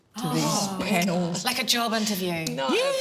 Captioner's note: groans